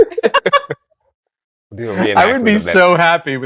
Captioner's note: laughter